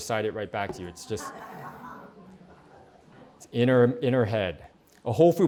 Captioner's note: laughter